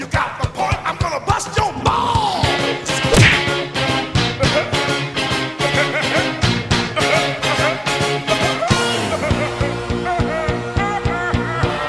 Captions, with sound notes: You got my point I'm gonna bust your balls!! (Evil laughter)